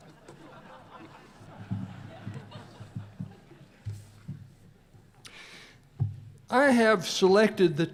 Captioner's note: laughter